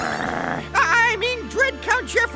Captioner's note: growling